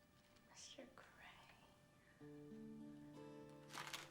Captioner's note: whispering